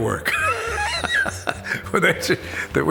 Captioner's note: laughs